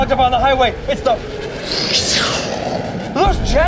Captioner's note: whistles